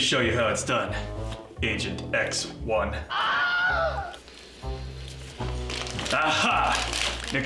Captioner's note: man screams